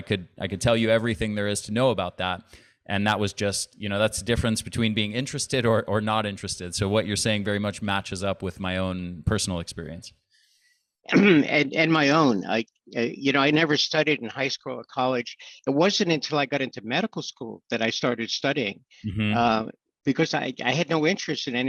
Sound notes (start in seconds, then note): 11.1 clears throat